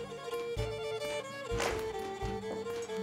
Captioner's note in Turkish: Kapı açılır